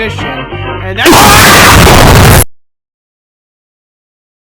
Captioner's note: explosion noise sound effect